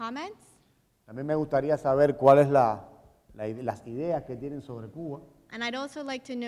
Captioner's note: speaking in Spanish